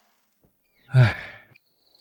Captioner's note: sigh